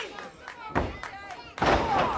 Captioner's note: crowd cheering